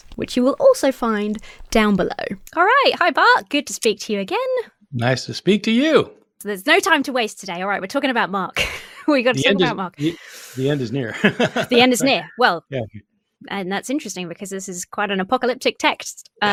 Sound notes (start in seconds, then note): 9.4 chuckling; 10.6 laughing